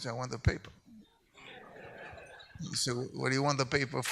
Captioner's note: audience laughs